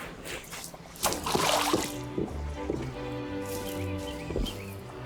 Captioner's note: water sloshing; dramatic music continues